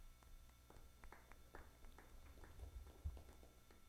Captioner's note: audience clapping